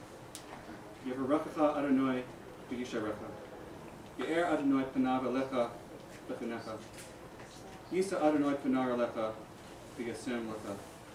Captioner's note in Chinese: 希伯语